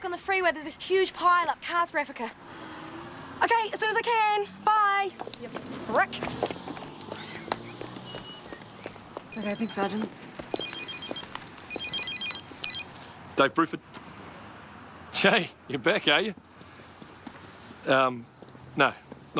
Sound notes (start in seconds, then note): 9.3 phone ringing; 9.3 woman chattering